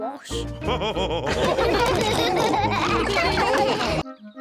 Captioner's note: all laughing